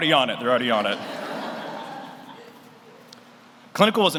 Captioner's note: audience laughs